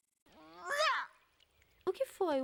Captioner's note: meow